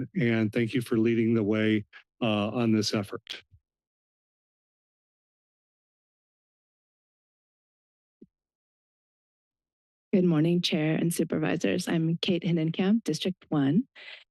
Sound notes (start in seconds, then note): 3.8 silence